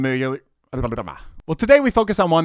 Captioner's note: stammering